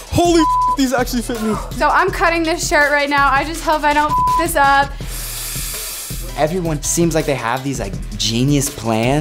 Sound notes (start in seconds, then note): 0.3 beep; 4.0 beep; 5.0 air blowing into beach ball